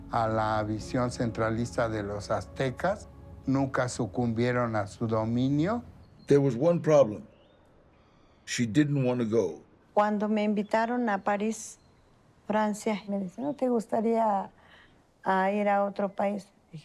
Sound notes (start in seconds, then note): 6.2 in English; 9.9 in Spanish